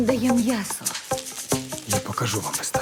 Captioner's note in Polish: odbijające się pinezki